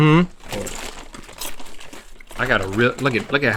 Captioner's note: crunching